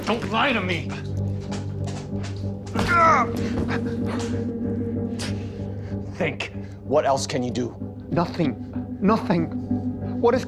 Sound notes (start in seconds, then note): 1.9 Terry groaning in pain; 1.9 tense music